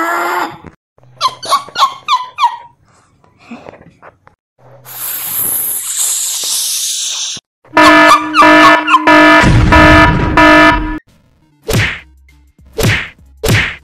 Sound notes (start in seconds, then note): 1.2 laughing; 7.7 serious disaster Noise